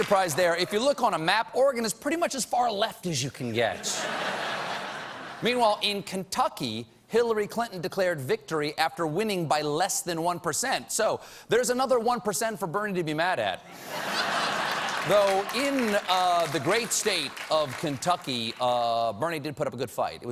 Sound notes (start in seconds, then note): 3.8 laughter; 13.6 laughter; 14.3 applause